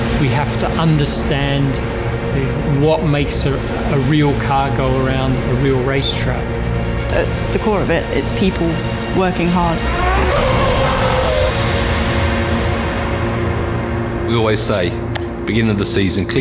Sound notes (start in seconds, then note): 9.8 various mechanical sounds